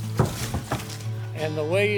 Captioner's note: bangboard thumps